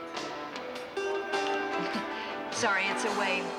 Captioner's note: chuckles